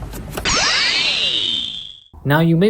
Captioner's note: magic sfx